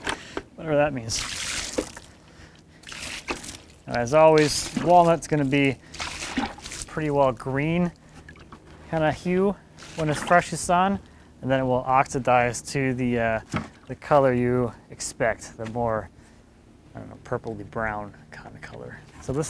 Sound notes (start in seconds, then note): 0.8 water splashing